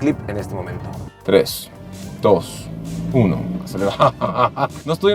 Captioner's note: excitement laughs